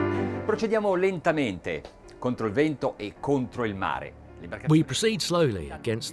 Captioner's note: speaking in a foreign language